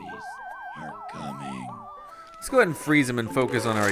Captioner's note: voiceover